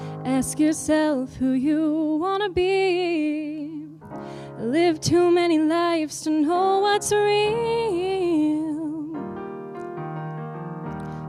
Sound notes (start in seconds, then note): none